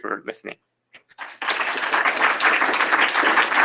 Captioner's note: applause